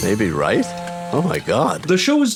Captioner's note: phone buzzes